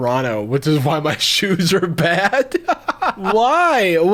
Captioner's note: laughing